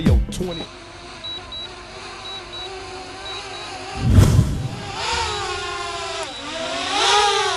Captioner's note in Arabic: صوت الطائره